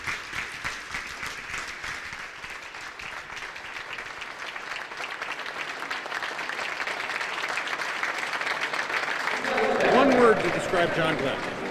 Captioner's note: applause